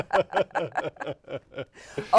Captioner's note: laughter